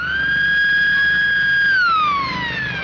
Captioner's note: siren wailing